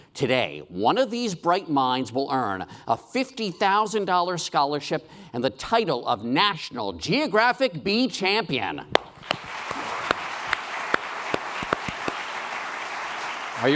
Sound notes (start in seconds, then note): 9.0 applause